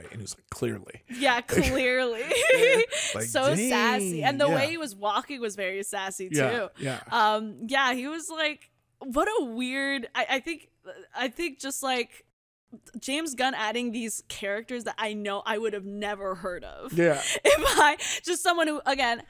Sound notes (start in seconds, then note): 1.5 laughs